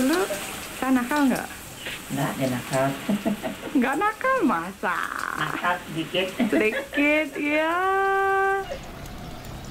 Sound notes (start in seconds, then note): 4.9 woman speaking native language